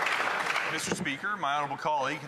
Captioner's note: some Applause